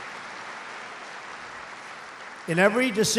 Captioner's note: applause